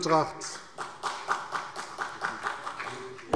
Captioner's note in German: Vereinzelter Beifall CDU und BÜNDNIS 90/DIE GRÜNEN